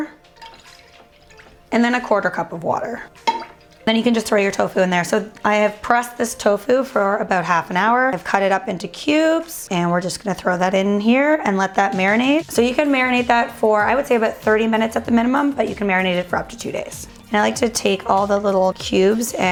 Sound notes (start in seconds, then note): 0.1 splashing; 3.0 clanking; 3.0 splashing